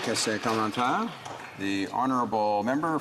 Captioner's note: applause